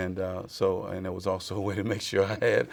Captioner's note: laughs